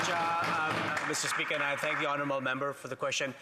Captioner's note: applause